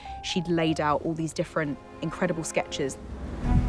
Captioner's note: none